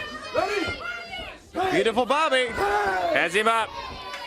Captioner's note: crowd chatter